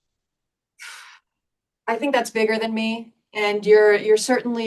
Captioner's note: sighs